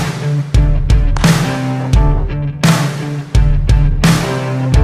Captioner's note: hands slapping